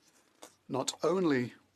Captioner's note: speaking French